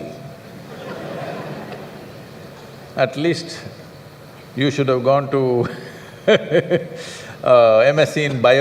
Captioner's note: laughter